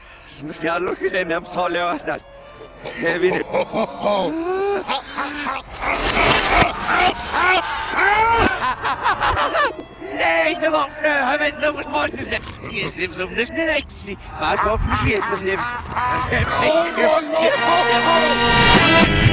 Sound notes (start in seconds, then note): 2.6 super heavy laugh; 8.8 Medic laugh; 14.2 heavy laugh